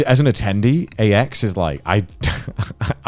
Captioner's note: laughing